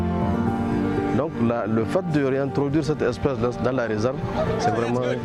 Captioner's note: foreign language